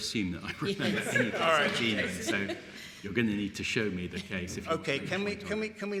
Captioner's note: laughter